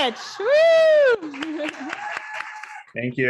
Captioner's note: audience applauding